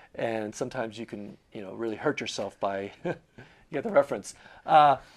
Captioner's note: laughing